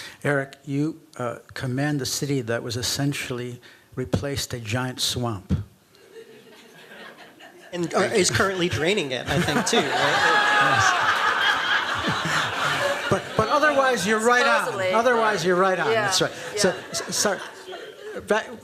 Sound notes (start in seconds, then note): 11.1 laughter